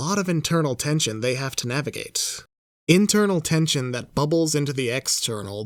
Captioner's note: none